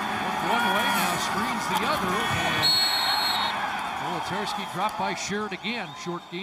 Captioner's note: crowd din; noisemakers